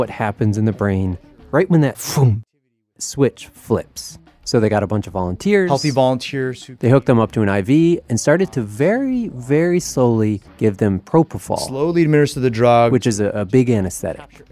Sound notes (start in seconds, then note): none